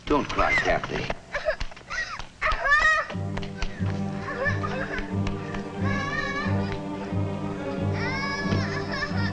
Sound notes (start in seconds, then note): 3.1 wailing loudly; 5.7 dramatic music